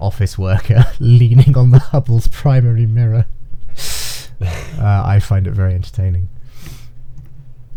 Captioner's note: laughing